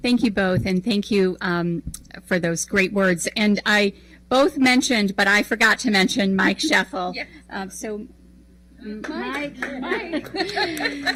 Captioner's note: applause